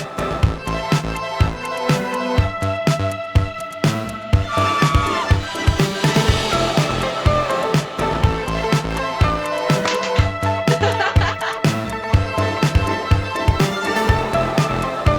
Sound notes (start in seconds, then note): 4.4 screams; 5.4 upbeat music; 10.6 laughing; 11.6 upbeat music